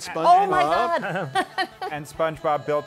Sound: laughs

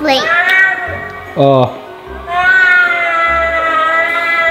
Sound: spooky meowing

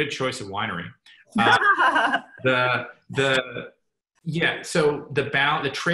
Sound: laughs

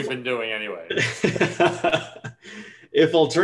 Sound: laughs loudly

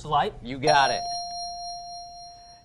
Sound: ding

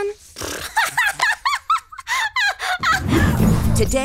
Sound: laughing

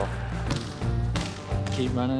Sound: balls bouncing

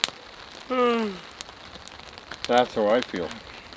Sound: yawns

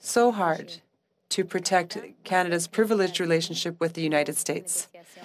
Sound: speaking French

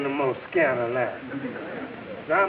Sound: audience laughing

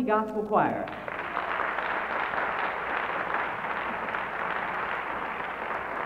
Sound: applause

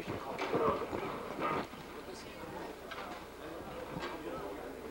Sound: chatter

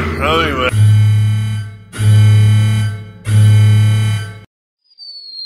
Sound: broken elevator noises

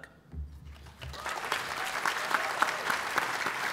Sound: applause

